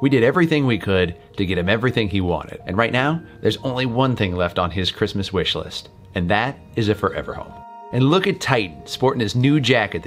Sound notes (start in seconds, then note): none